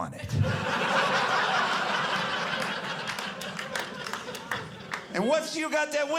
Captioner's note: audience laughing